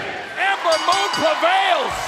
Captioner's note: bell ringing